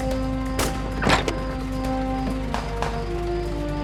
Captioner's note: guns firing